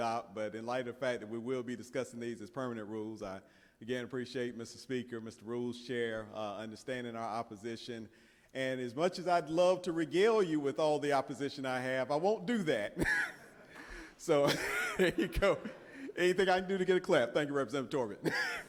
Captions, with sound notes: to some rules that we are tempted to adopt but in light of the fact that we will be discussing these as permanent rules, I again appreciate Mr. Speaker, Mr. Rules Chair understanding our opposition and as much as I'd love to regal you with all the opposition I have, I won't do that. [laughs] So there you go.